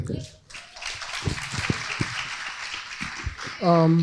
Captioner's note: crowd applauding